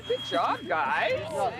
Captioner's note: laughter